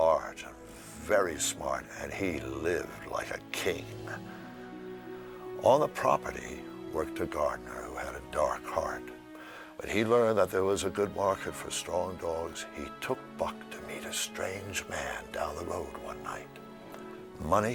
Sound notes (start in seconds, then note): none